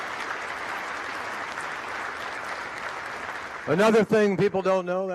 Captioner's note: applause